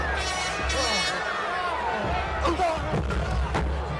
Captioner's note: air horn blows